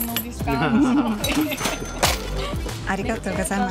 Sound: laughs

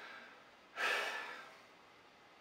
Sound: sigh

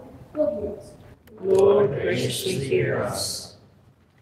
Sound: none

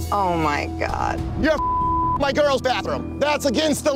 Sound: beeping

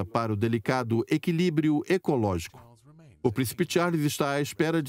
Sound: voiceover

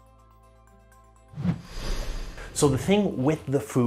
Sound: air whooshes

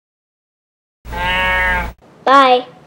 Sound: cow moo

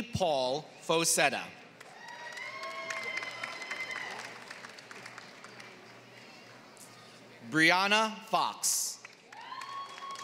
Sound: applause; applause

